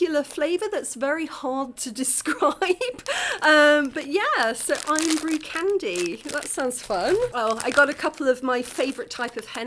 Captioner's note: laughing